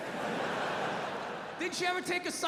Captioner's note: audience laughing